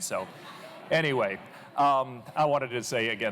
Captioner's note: laughter